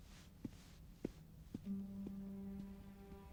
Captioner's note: footsteps tapping; foreboding music